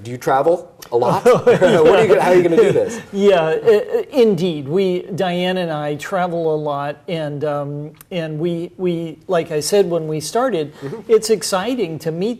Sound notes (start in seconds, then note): 1.0 laughs